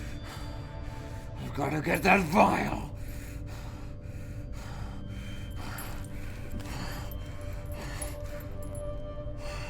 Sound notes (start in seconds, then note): 3.1 panting